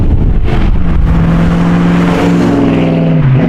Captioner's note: car accelerating